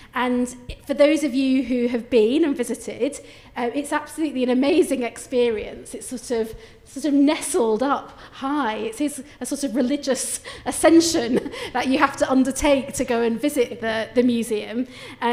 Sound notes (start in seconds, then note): none